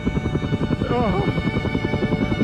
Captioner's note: mutters